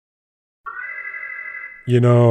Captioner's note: alarm